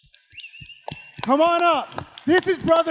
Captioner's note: audience applauding